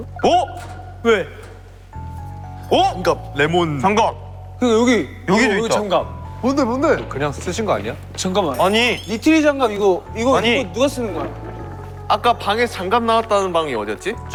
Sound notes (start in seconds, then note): 10.2 running